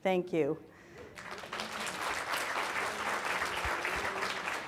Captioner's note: audience applauds